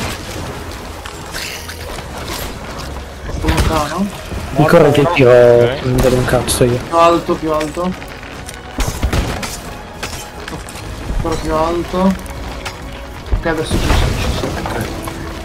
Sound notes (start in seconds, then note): 5.8 the cannon shots